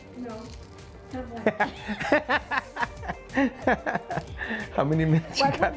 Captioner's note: laughs